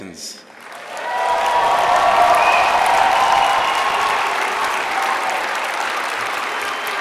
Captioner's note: applause